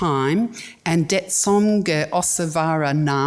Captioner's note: speaks in foreign language